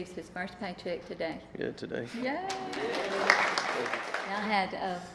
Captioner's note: applause